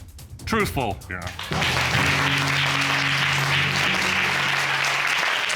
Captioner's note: applause